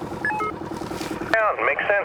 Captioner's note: walkie talkie beeping